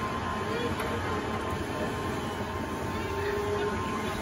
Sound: helicopter ride whirling

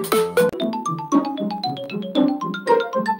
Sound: Nintendo GameCube Startup Sound

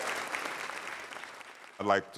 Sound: applause

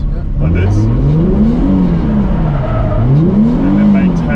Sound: car engine revving

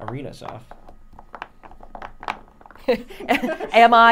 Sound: blocks rattling

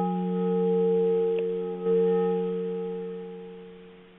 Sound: tone stops

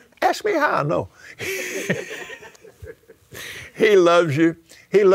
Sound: laughs

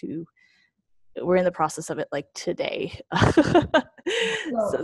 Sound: laughing

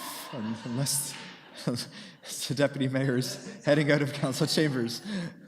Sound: laughter

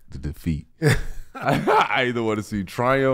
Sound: laughing

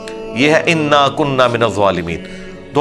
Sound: Arabic

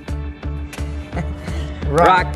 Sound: laughs

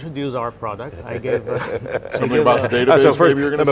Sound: laughing

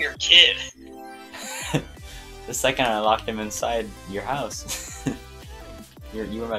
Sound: laughs

